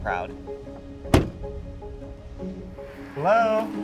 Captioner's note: car door shutting